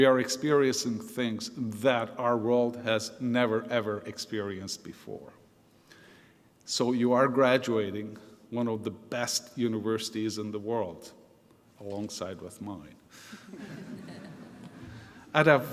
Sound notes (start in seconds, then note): 13.3 laughter; 13.3 laughs